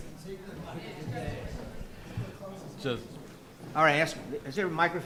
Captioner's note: people murmuring